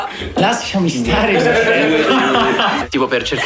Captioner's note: laughs